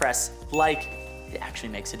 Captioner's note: bell ringing